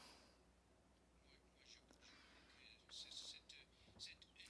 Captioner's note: speaking French